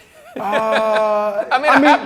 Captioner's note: laughing